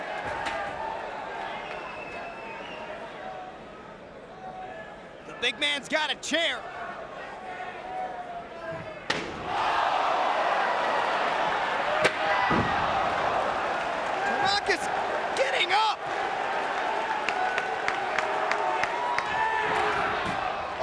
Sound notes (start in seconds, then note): 0.2 crowd chattering; 9.1 chair thuds; 12.0 Tanaka thuds; 12.5 chair slams; 16.4 crowd chattering and clapping